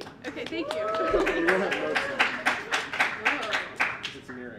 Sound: audience clapping and cheering

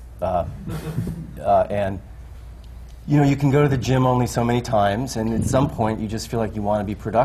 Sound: laughter

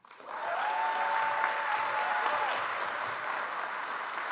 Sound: audience applauds

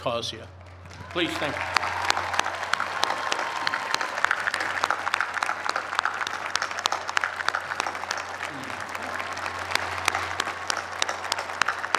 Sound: cheers and applause

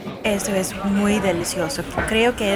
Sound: Spanish

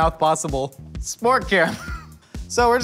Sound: laughs

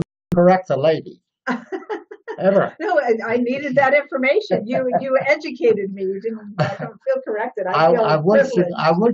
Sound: laughs

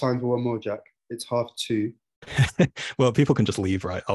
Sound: chuckles

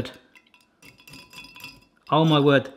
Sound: glass tinkling

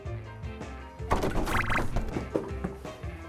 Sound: clunk clunk

